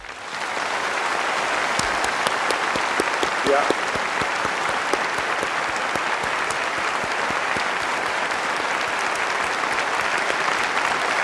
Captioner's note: applause